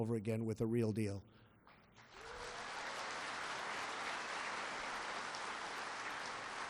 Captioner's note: applause